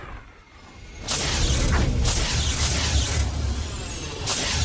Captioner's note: flames whooshing